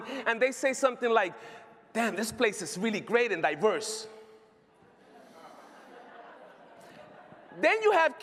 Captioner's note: laughter